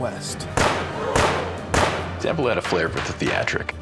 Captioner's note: gunfire